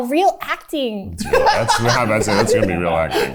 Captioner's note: laughs